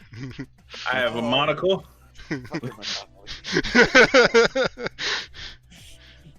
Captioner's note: laughter